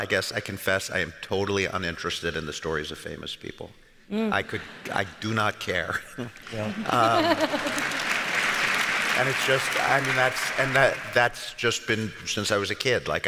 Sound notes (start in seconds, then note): 6.4 audience applauds